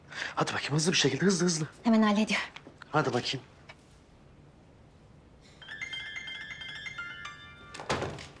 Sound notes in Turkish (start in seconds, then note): 5.6 Telefon Çalıyor